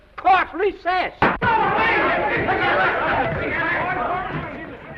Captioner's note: gavel bangs; commotion